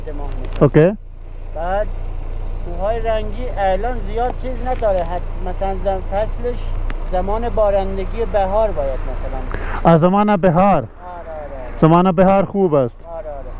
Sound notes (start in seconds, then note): 0.0 speaking in Persian